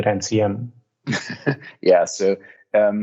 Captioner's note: chuckling